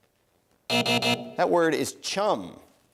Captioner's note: buzzing